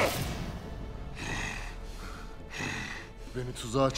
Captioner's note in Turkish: Nefes sesi